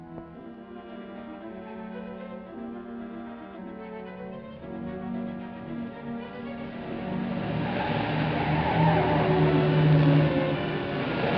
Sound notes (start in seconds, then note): 0.1 suspenseful music; 6.5 car accelerating, tires skidding